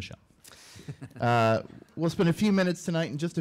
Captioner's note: laughing